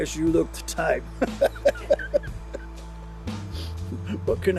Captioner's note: laughs